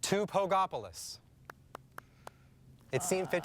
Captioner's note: micah claps